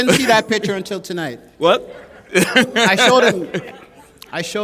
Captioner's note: laughter